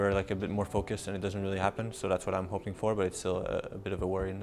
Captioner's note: none